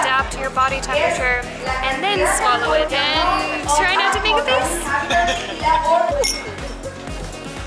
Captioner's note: laughter